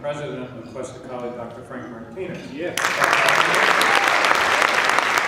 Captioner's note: applause